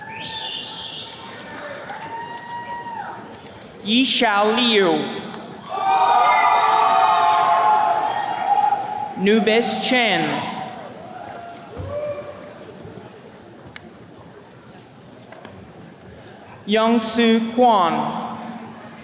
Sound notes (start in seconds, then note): 1.6 attendees cheering; 5.6 attendees cheering; 11.2 attendee cheering